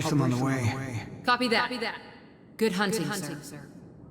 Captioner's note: as an echo from the past